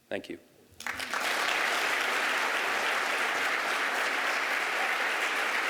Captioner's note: applause